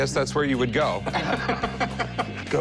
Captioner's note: laughter